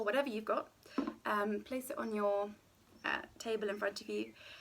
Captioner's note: can plunking